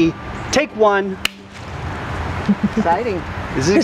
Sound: claps

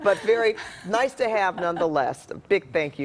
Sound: laughter

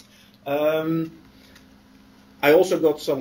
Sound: pause

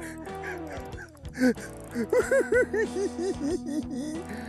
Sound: giggling

